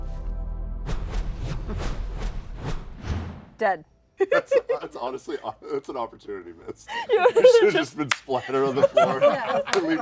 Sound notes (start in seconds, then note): 1.8 whooshing; 4.2 laughter